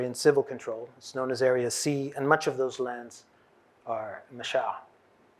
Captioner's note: hebrew